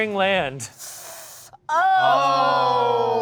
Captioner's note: cast draws in breath; cast exclaims